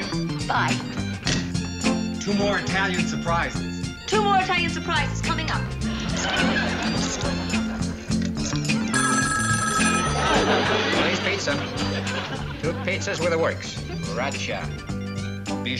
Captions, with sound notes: Thank you. Bye. Two more Italian Surprises. Two more Italian Surprises, coming up. [phone ringing] Tony's Pizza. Two pizzas with the works. Roger.